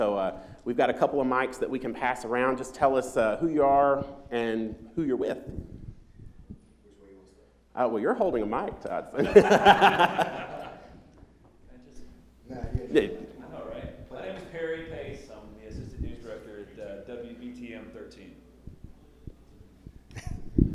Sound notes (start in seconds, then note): 9.2 laughter